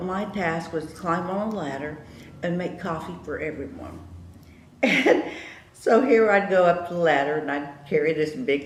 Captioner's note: laughs